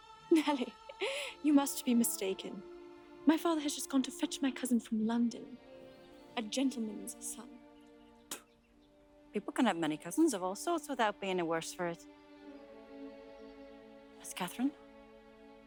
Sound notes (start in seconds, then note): 8.2 spitting; 15.4 soft music